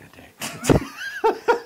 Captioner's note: laugh